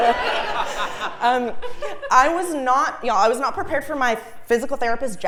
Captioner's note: laugh